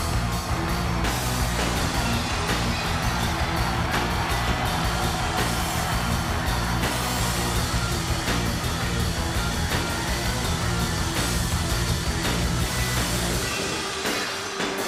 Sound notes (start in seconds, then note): 0.2 upbeat music continues; 4.9 audience cheers